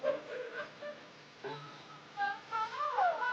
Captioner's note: laughter